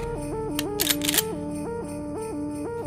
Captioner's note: Gun cocks